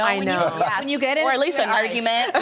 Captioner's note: laughs